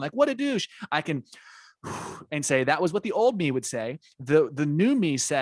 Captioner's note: deep breath